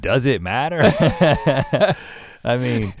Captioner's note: both chuckle